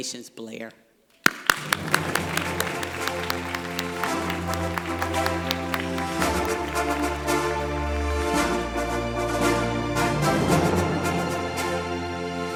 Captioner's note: applause, Music